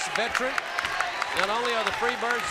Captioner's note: crowd cheering